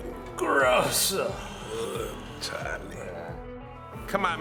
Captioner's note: speaking Spanish